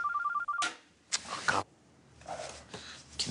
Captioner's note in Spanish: Suena el celular